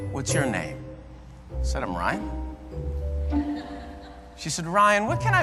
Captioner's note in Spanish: risas